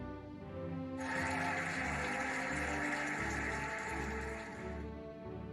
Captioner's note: cheering and applauding